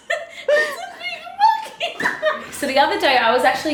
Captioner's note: laughter